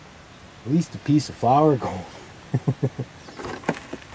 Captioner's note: laughter